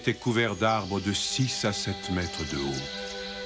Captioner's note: bird song